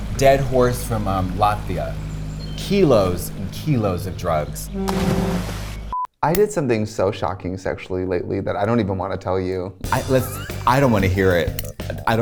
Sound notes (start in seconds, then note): 4.8 water splashing; 9.9 sensual funk music